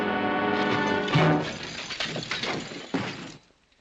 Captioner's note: crash - thud